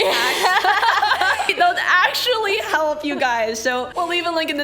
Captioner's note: laughs